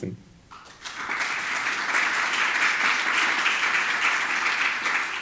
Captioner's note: audience applauds